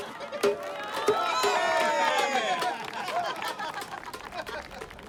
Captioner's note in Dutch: publiek juicht